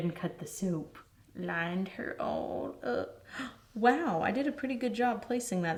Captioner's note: gasps